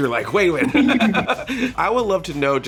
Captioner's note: laughter